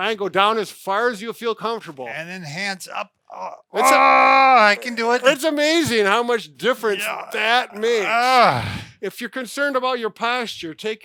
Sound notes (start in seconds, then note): 3.7 grunting